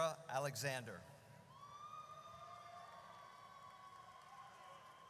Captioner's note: audience cheers